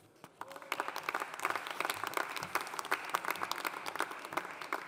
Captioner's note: audience applauding